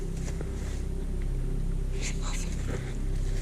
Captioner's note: footsteps